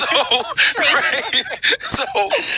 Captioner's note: laughter